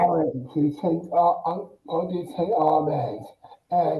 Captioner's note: mumbles excitedly